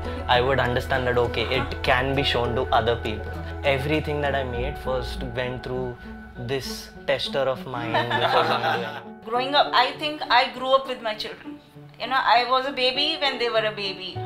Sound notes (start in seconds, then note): 7.8 laughter